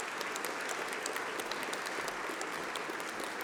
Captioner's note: applause